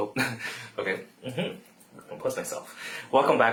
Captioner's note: laughs